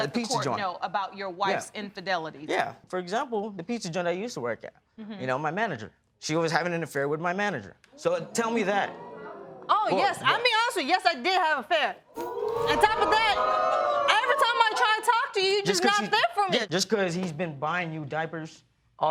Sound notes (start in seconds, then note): 8.2 audience gasp; 12.1 audience react